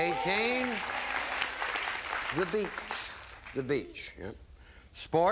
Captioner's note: applause